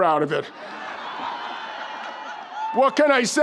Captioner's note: audience laughs